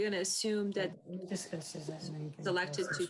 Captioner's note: murmuring